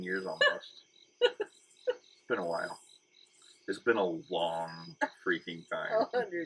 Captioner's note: laughing